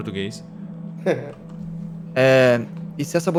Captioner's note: laughs